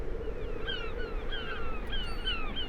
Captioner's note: gulls calling